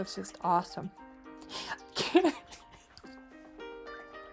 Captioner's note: crying